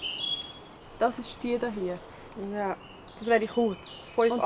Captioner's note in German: auf Schweizerdeutsch